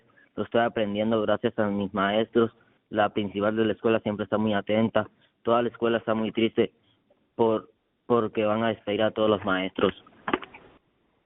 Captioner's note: speaking in spanish